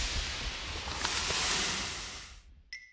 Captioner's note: crashes